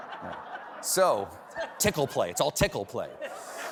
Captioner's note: laughter